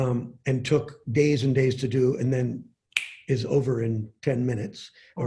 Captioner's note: snaps fingers